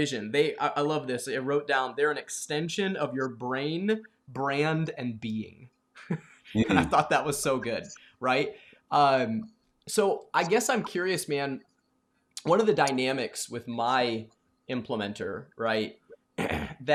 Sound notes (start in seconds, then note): 6.0 laughs